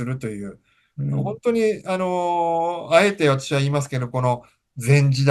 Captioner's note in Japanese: 咳払い